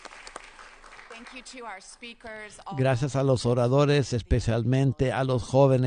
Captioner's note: applause